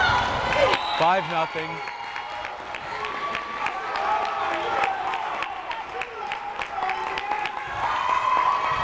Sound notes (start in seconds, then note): 0.0 crowd cheering